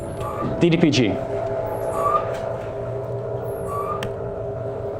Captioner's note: mechanical whirring